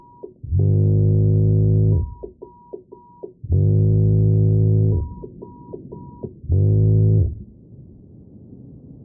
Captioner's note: muffled vibrating alarm clock sound